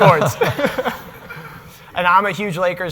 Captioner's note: all laughing